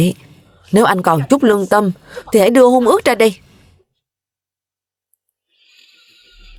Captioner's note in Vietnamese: khịt mũi